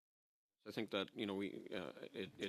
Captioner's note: speaking French